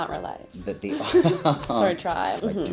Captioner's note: chuckles